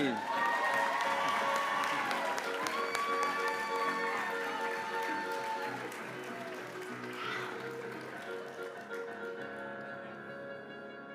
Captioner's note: applause